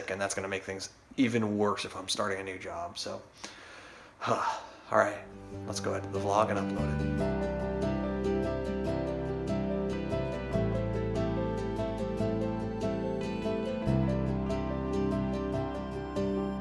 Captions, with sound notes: and that's gonna make things even worse if I'm starting a new job. So, (exhales), all right. Let's go edit the vlog and upload it. (driving piano music)